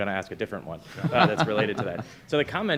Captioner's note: attendees laughing